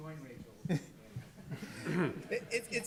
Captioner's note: laughing